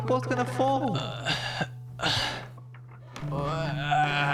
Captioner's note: grunting; stronger grunting